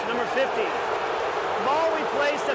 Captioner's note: booing